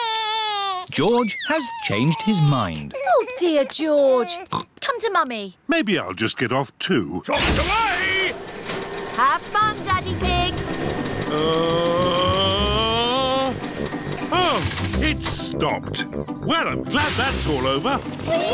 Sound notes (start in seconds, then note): 0.0 crying; 4.4 oinks